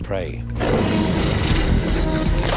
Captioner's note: snarling